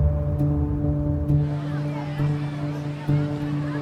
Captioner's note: city noises